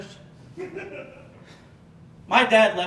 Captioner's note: audience Laughing